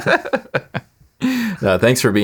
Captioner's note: laughing